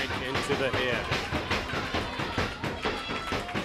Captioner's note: crowd chatter